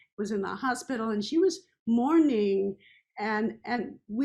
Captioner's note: none